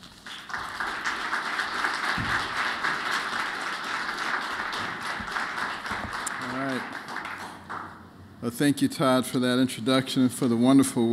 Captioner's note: applause